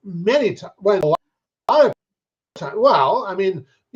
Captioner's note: speaking faintly